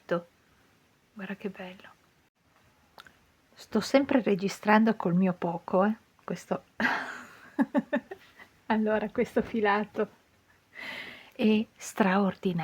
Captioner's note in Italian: risate